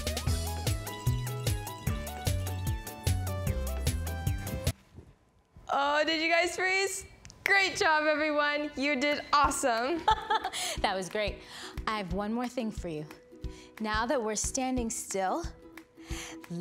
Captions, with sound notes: - Oh, did you guys freeze? Great job everyone, you did awesome. - (laughs) That was great. I have one more thing for you. Now that we're standing still,